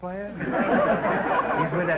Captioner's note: audience laughter